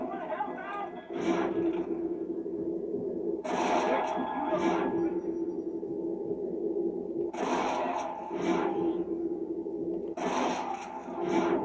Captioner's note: cold-blooded noises and shots